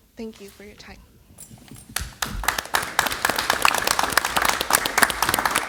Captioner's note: applause